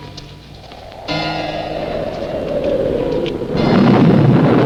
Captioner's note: wind howling